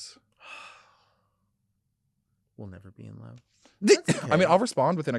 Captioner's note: sighs